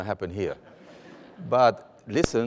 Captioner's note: laughter